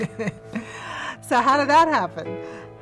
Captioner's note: laughs